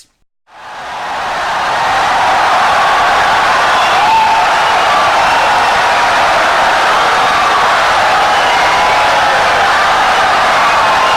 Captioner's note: wild applause and cheering for 17 seconds